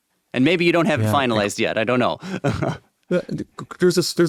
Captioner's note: chuckles